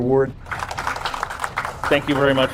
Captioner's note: attendees applaud